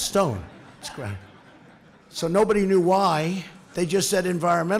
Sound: laughter

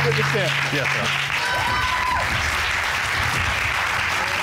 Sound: audience cheering

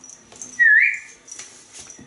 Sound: whistles

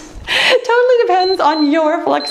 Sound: timer beeps

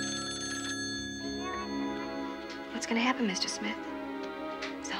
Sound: phone ringing

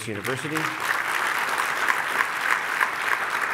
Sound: applauding

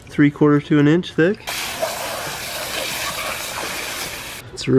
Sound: hose spraying

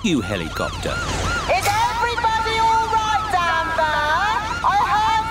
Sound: over megaphone

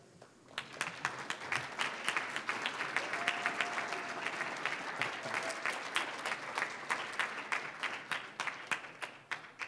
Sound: applause

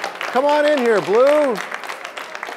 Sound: applause

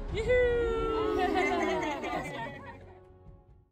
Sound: laughter

